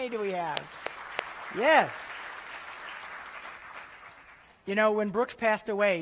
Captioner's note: applause